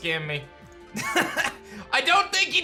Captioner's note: laughs